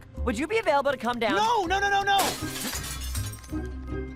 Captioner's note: glass shatters